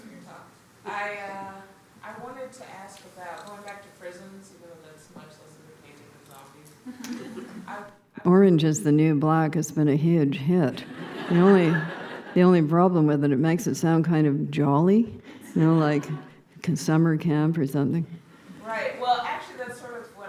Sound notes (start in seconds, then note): 10.8 laughter